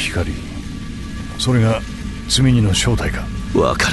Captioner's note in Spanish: sonidos eléctricos